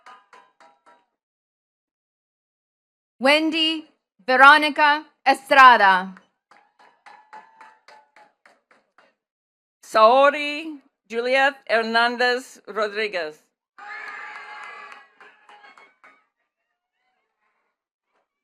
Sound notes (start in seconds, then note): 0.0 attendees clapping; 6.4 attendees clapping; 13.8 attendees cheering and clapping